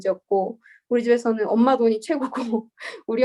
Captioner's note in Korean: 웃음